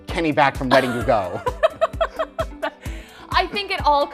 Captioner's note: laughs